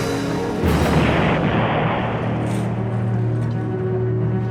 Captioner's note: bomb explodes